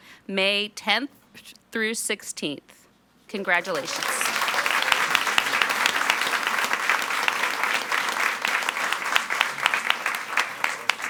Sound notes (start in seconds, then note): 3.3 all applauding